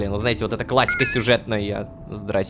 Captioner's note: notification